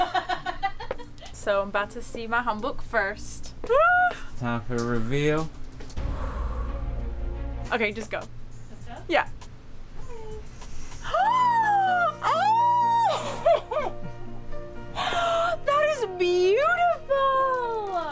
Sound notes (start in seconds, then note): 5.9 dramatic music; 6.0 exhales; 11.4 dramatic piano music; 11.4 gasping